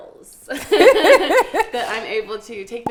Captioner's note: laughing